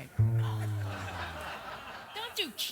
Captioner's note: audience laughs